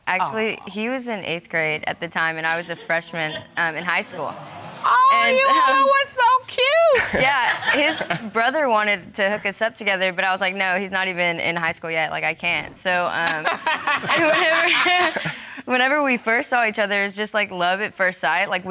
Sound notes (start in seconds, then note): 2.6 audience laughs; 7.6 chuckles; 13.3 chuckles; 13.3 audience laughing